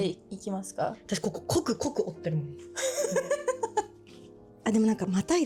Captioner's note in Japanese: 笑い